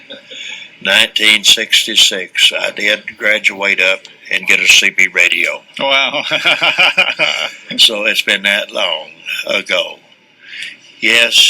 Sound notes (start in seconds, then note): 8.2 laughter